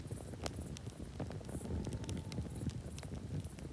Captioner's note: fire crackling